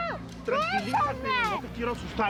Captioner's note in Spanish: Gritos apagados